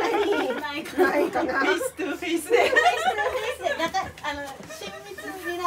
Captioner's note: laugh